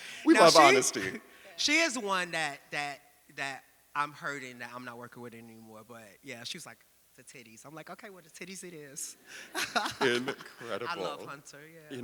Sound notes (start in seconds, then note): 0.0 audience laughing; 9.4 laughs